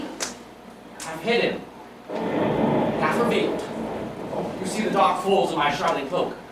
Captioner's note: thunder